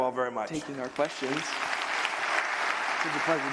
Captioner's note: applause